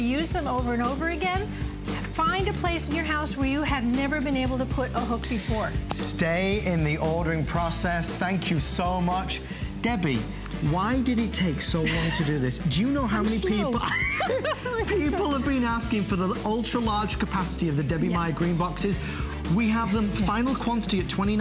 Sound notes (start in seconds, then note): 15.3 laughter